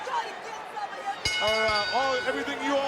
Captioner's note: bell dinging